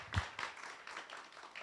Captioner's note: applause